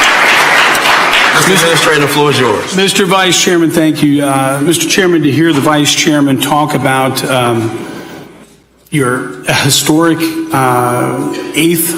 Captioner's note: applause